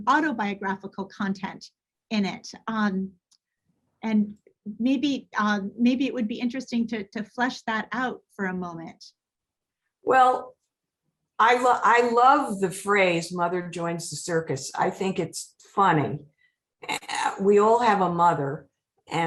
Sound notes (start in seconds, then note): none